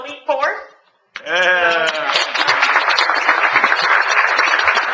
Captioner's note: audience applauding